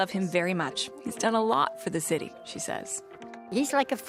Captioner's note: speaking French